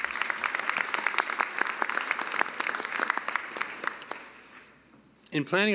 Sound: applause

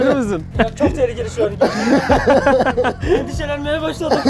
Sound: laughs

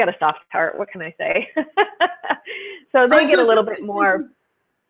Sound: laughs

